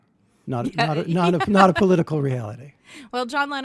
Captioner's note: chuckles